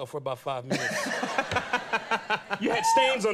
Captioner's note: laughing